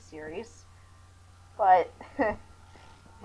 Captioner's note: chuckle